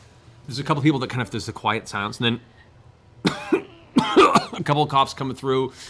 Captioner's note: coughing